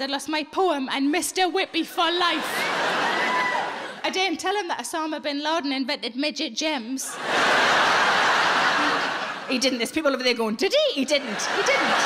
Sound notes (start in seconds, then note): 7.1 audience laughing